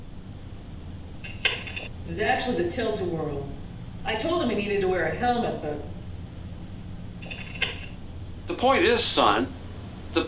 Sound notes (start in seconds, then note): 6.1 intercom clicks off